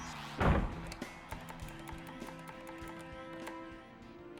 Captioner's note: door slams; footsteps stomping; tense music